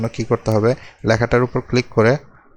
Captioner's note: left click